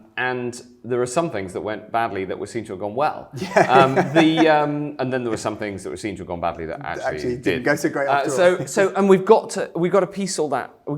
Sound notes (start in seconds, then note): 3.3 laughing